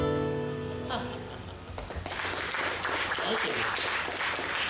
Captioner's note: chuckles; audience clapping